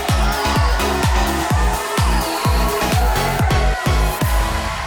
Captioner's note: audience cheering